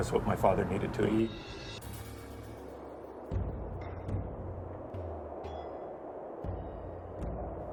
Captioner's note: tense drumming music; wind whistling